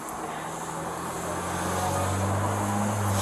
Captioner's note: engine revving